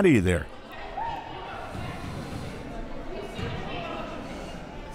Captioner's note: crowd murmuring